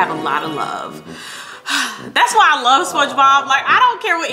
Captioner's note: sighs